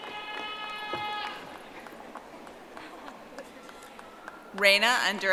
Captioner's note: audience applauding